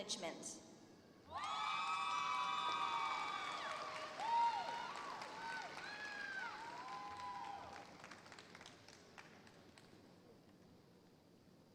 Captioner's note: applause